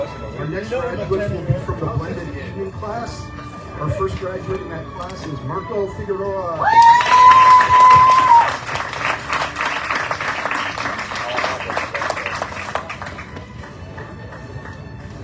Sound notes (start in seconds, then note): 6.6 audience cheering, applauding